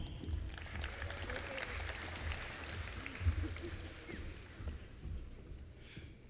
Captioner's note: applause